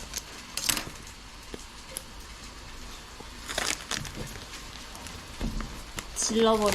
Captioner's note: the sound of frying the Jeon